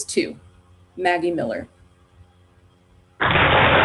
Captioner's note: applause